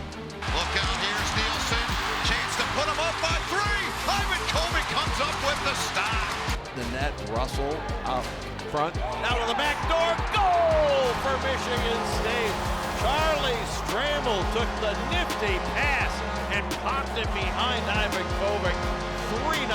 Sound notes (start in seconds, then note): 12.0 buzzer buzzes